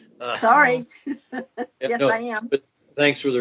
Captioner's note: laughs